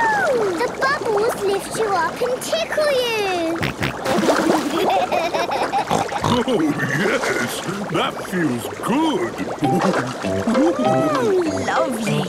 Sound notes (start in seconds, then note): 3.0 snorting, giggling